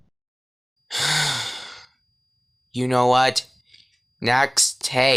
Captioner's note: sighs